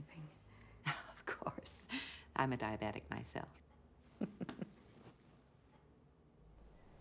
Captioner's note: chuckling